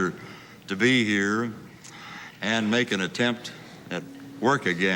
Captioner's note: none